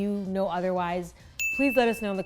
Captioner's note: bell dings